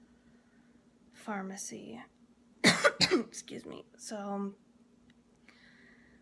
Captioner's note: coughs